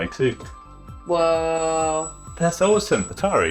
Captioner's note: console squealing